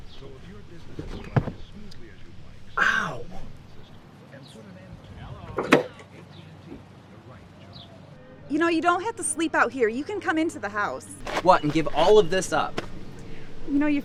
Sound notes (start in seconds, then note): 4.5 radio muffled